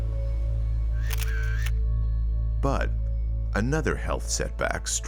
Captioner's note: camera shutter clicks